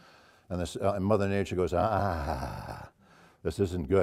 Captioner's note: laugh